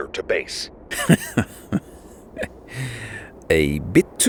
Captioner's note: Wildcard chuckles